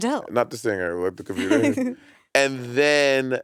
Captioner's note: chuckling